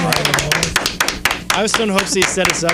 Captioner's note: clapping